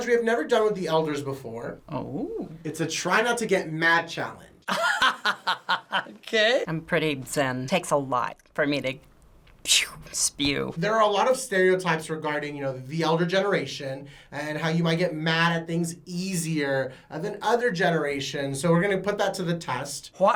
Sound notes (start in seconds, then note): 4.7 laughs; 9.5 imitates air whooshing